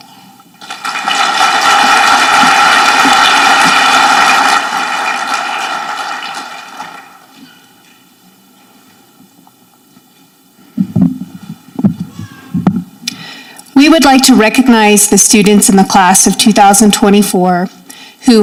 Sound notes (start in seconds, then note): 0.6 audience clapping